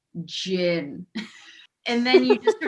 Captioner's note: laughing